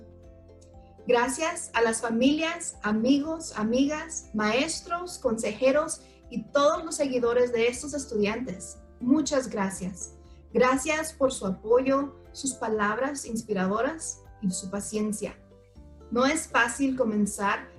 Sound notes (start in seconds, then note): 0.9 spanish